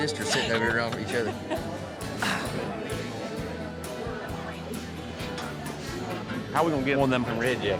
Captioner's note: people chattering